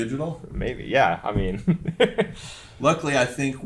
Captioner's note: laughs